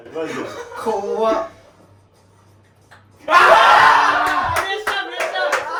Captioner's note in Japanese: 叫び声; 拍手; 大歓声